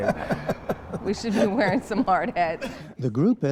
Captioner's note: laughter